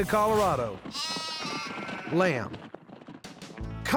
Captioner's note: baaing